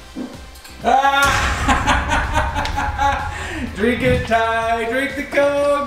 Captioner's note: laughs